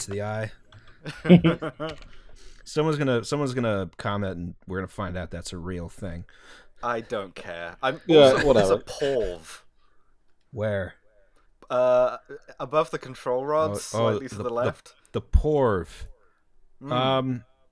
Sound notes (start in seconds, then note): 1.0 laughter; 6.8 aggressively